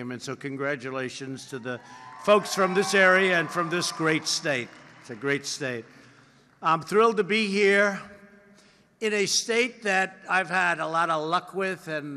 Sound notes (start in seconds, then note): 4.0 applause